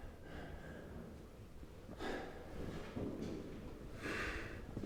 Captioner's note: Carling breathes heavily